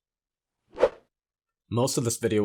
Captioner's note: graphics whooshing